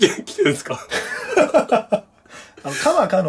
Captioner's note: laughter